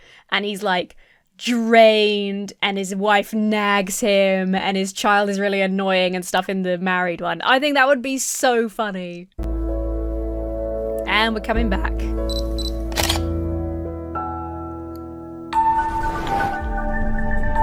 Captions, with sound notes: And he's drained and his wife nags him and his child is really annoying and stuff in the married one. I think that would be so funny. (uplifting music) And we're coming back. (camera beeps) (shutter clicks) (lighthearted music)